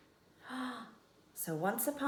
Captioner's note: gasp